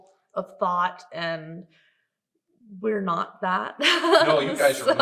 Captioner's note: laughs